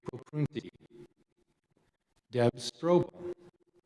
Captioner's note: audio cuts out